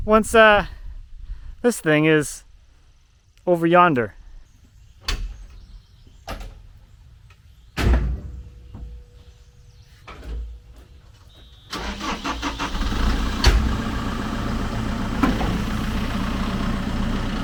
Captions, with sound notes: once this thing is over yonder. (door opening) (engine starting) (engine running calmly)